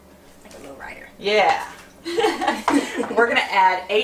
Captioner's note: laughter